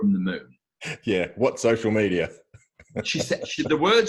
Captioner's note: laughs